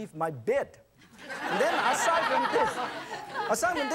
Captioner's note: audience laughs